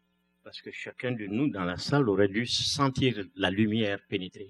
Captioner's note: speaking french